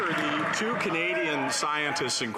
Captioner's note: some Applause